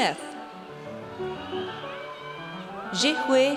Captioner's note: audience cheers